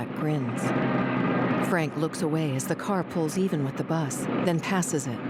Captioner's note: engine whirring